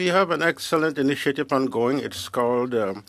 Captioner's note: speaking French